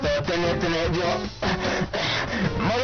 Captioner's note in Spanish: respiración